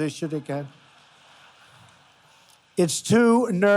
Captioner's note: laughter